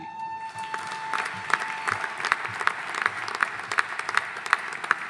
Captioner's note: audience applauding